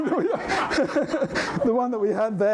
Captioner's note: laughter